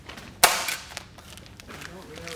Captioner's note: thwack!